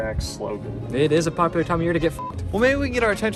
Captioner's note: beep